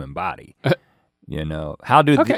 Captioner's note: Link chuckling